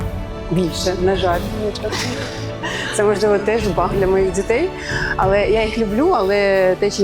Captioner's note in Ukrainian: сміх